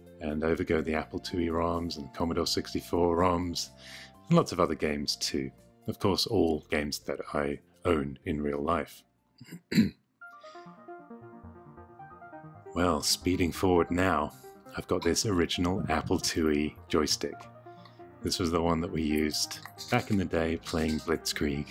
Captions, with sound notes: And over go the Apple IIe ROMs and Commodore 64 ROMs and lots of other games, too Of course all games that I owned in real life (clears throat) Well speeding forward now, I've got this original Apple IIe joystick This was the one that we used back in the day playing Blitzkrieg